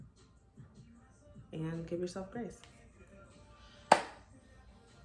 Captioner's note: claps